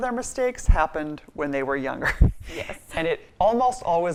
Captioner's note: laughs